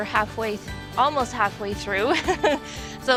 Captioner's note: laughing